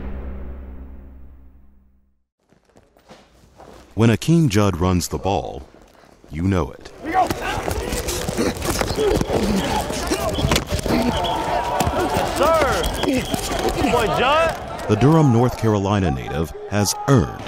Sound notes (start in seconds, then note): 7.0 grunting; 7.1 equipment clashing